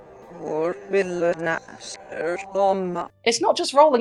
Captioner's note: Satanic Noises